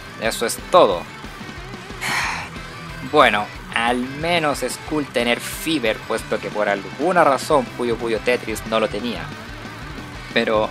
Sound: sigh

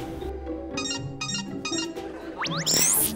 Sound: beeping

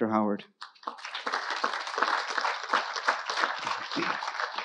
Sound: audience applauding

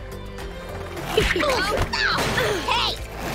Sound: groaning

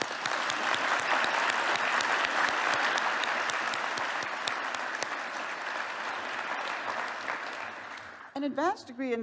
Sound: applause

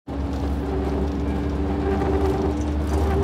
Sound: pulsing vibration

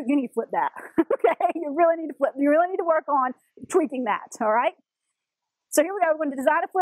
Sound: laugh

